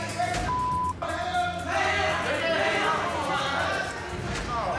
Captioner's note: shouting